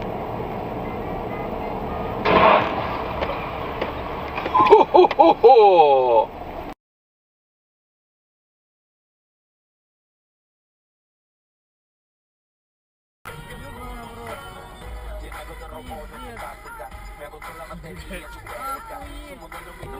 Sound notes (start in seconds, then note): 2.2 crash!; 6.8 silence ensues then a crash by the rear of the truck